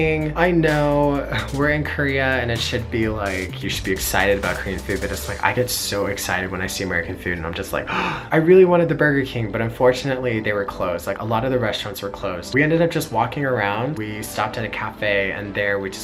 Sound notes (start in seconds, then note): 7.8 gasps